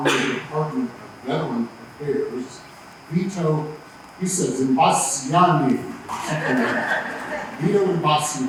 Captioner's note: laughter